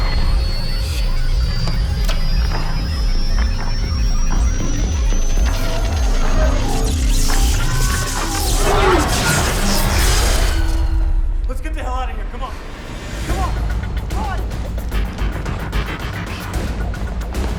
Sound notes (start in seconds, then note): 2.8 computers beeping; 2.8 pulsing; 5.8 static crackling; 14.3 suspenseful music